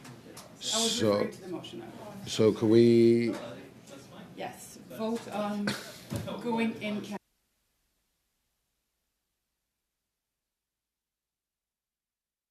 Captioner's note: mixed voices